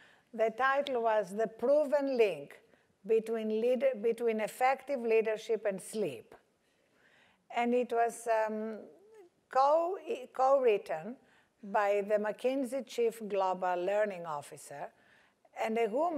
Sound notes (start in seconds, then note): none